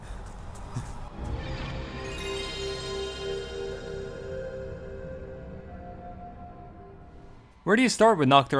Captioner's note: PS1 start-up sound effect